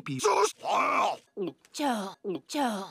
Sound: glugs eggnog

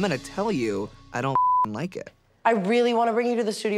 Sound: beep

